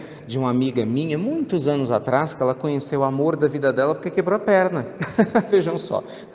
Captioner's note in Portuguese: risos